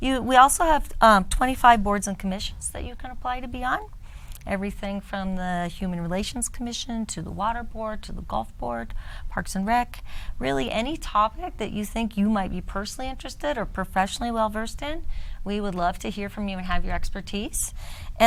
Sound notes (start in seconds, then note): none